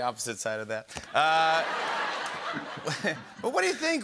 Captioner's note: laughter